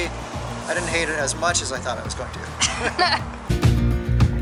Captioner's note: laughter